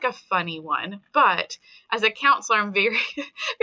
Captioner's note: chuckling